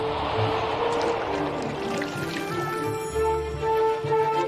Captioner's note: water splashes; suspenseful music